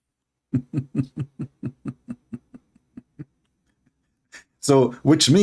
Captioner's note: Ketawa